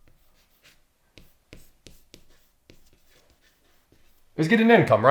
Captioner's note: chalk scraping on chalkboard